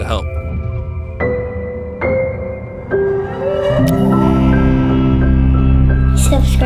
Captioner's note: slow piano music; check mark clicking